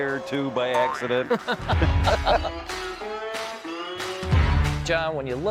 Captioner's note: both laughing